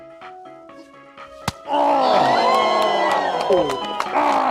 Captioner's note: cheers